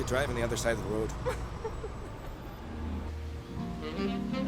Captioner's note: Cassidy laughing; soft music